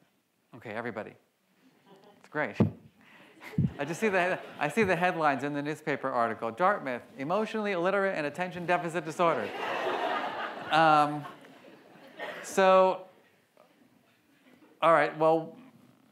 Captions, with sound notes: Okay everybody. That's great. I just see the headlines in the newspaper article. "Dartmouth: emotionally illiterate and attention deficit disorder." (audience laughs) So, all right, well you know,